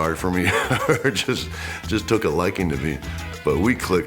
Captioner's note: laugh